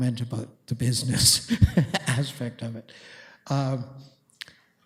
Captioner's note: laughs